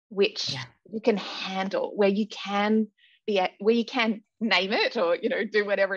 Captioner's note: none